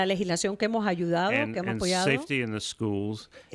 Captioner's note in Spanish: Hablando ingl\s